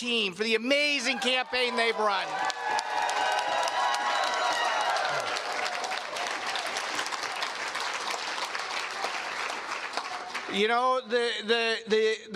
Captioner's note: cheers and Applause